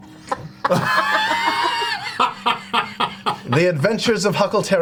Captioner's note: all laugh